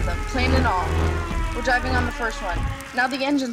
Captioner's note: airplane begins to dive; airplane motor sputters and dies